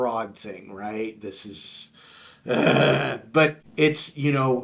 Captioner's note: grunting